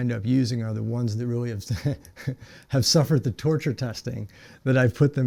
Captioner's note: laughing